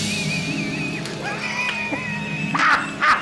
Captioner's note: evil laughter; more aggressive shuffling; more evil laughter